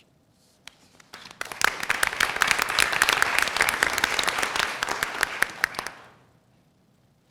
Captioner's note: applause